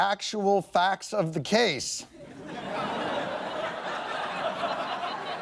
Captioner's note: laughing